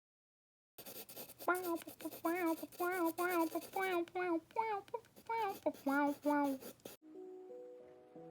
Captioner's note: making weird noises